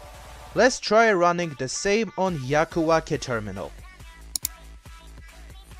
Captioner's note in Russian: клик